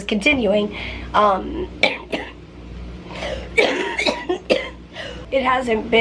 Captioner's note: coughing